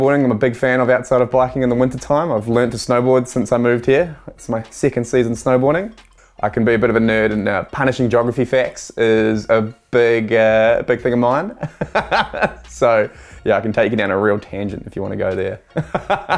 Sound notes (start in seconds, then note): 11.6 laughter